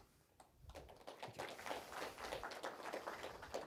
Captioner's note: applause